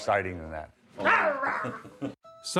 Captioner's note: woman growls; laughs